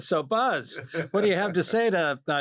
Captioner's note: laugh